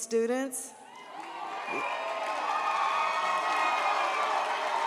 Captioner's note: audience cheers